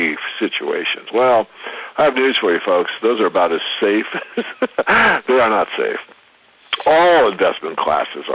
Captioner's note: laughs